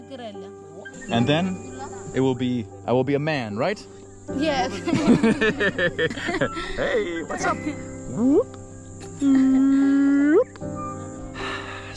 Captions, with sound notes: And then it will be, I will be a man, right? - Yes. (laughing) - Hey, what's up? Whoop! Whoop!